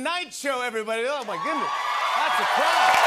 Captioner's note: cheers and applause